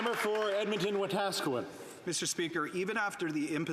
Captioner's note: some Applause